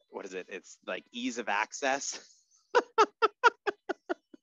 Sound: laughs

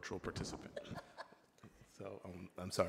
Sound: laughing

